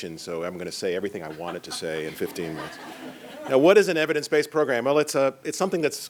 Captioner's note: laughter